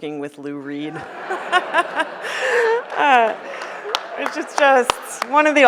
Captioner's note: audience laughing